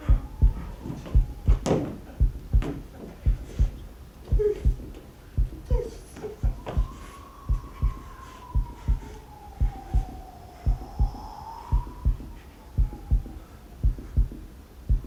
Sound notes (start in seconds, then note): 0.0 heart beating; 4.1 whimpering; 7.1 wind blowing; 7.4 heart beating